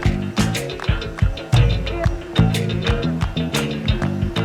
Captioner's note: birds chirping